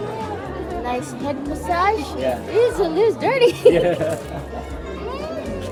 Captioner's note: laughter